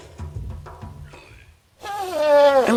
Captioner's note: elephant grunting